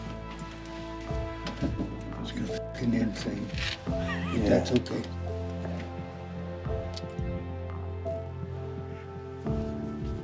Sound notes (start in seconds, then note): 4.0 laughing; 6.6 slow intense music